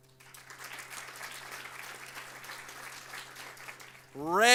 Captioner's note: audience applauds